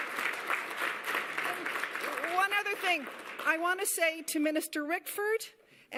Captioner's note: applause